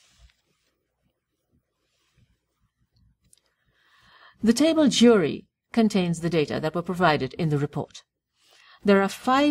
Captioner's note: pause